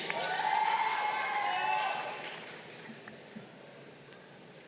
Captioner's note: crowd cheering